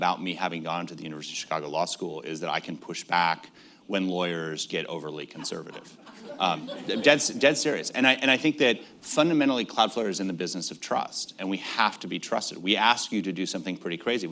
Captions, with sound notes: me having gone to the University of Chicago Law School is that I can push back when lawyers get overly conservative. (Laughter.) Dead serious. And I think that fundamentally, Cloudflare is in the business of trust. And we have to be trusted. We ask you to do something pretty crazy,